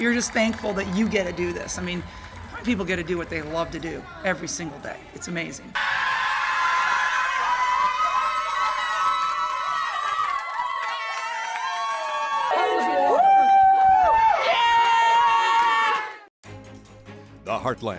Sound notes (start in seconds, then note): 6.1 cheering